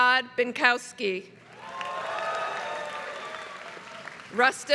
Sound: applause

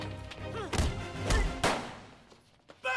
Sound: grunting; gunshot

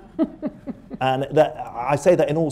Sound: laughter

